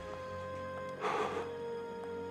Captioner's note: sighs wearily